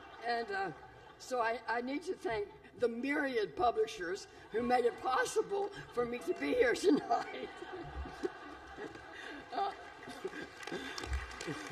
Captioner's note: laughter and applause